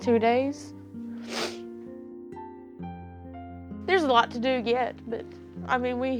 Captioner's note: sniffles